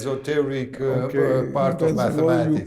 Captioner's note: laughs